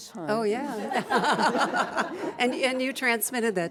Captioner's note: laughter